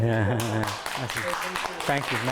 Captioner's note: applause